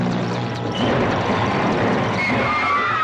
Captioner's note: whirring; crashing; all screaming